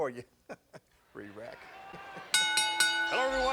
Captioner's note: laughs